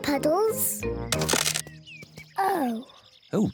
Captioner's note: cracking